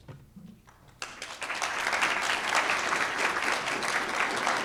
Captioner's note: audience applauding